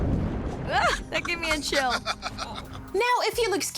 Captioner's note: man laughs